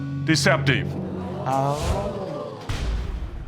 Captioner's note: audience gasps